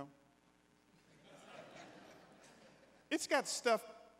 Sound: congregants laughing

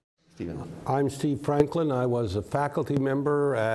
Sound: none

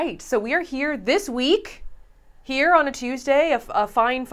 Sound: none

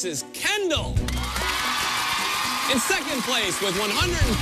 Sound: cheers and applause

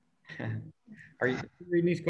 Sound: chuckles

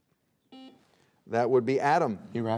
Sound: buzzer beeping

